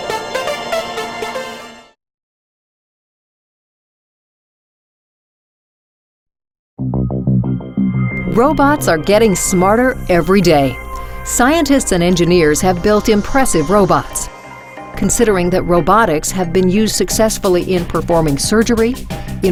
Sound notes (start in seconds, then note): 8.5 voiceover